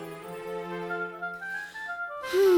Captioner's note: sighing